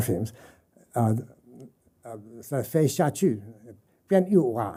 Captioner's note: speaking mandarin and jingpo